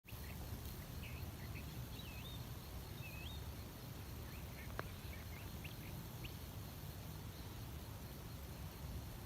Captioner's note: birdsong in background